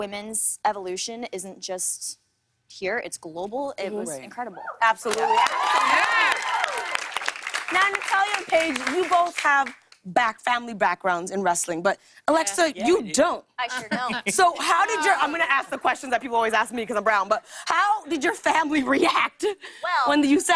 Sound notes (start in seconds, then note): 5.0 cheers and applause